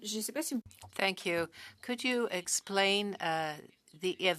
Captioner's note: speaking French